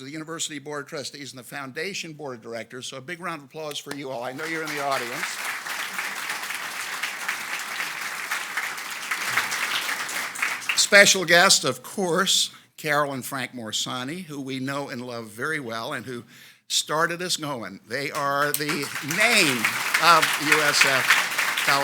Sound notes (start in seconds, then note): 5.3 audience applauds